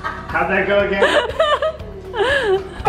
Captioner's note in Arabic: المجموعة تستمر في الضحك